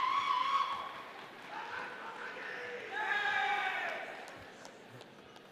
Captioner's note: audience cheers